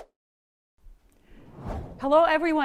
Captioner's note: air whooshing